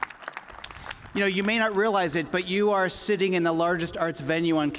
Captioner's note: applause